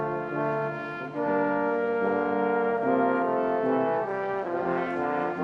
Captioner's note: none